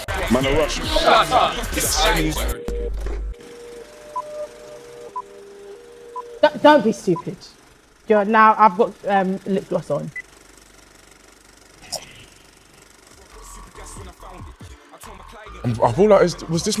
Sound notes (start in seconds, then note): 2.5 soft beeping; 3.4 film reel player clicking; 10.7 projector reel clicking